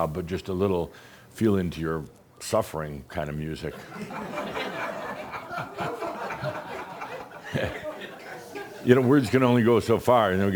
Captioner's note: laughter